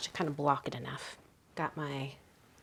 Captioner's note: none